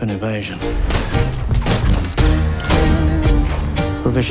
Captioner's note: gunshots